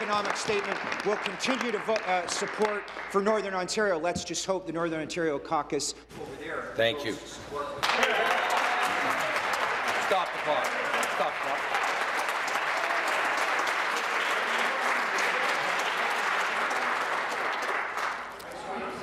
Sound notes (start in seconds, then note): 0.0 applause; 11.0 voice fading; 12.9 applause